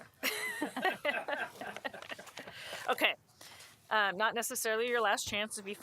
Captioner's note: laughter